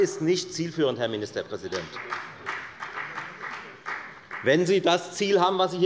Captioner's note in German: Beifall bei der FDP